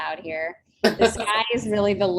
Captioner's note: laughs